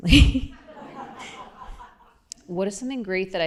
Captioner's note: laughter